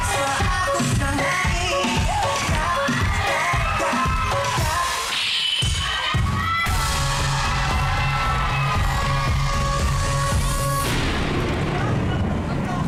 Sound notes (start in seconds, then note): 3.9 audience cheering; 8.1 audience cheering